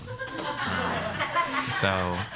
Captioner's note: laughter